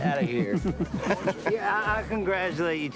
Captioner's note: laughing